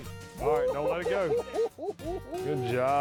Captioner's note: laughing